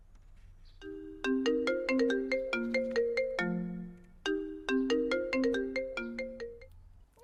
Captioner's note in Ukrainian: дзвінок телефону